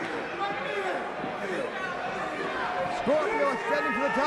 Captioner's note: crowd chatter